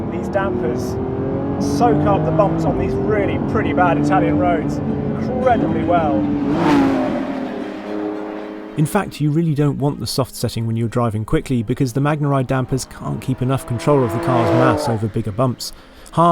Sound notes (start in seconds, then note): 6.4 car roaring past